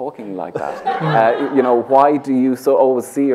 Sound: laughter

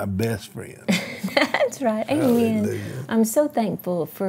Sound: laughs

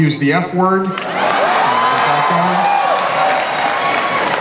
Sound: audience cheers

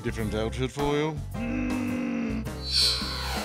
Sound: groans

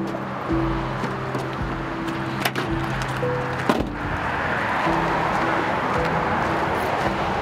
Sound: passing vehicles rushing; truck door clattering

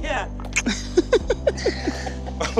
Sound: laughs

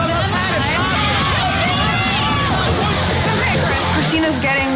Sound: contestants yelling

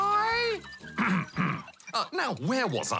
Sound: clears throat

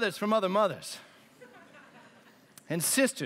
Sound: laughter

